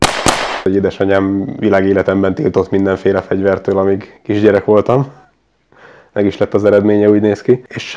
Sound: laughing

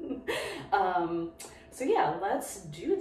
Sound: laughs

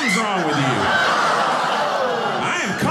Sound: audience laughing

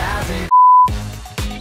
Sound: upbeat music; screen beeping

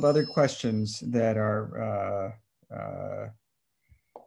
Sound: phone ringing

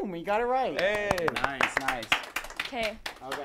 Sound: applause

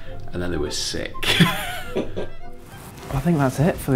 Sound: laughter

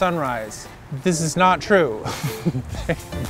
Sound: laughing

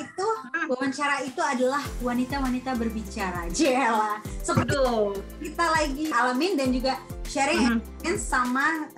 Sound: women Talk

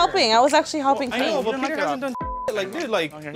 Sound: beep

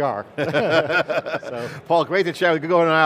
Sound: both laughing

